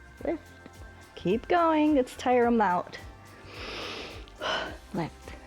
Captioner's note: inhales and exhales